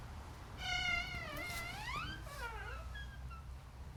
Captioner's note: door creaks